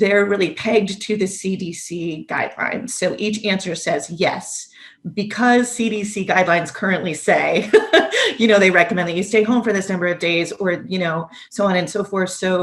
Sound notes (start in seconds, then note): 7.6 laughs